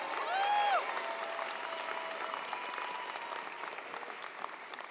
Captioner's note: audience applauds